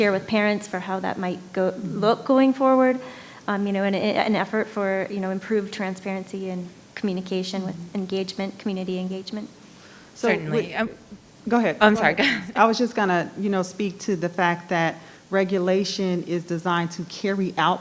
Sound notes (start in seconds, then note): 12.0 laughs